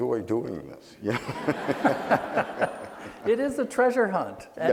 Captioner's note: laughing